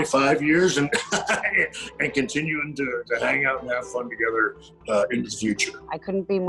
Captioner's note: laughs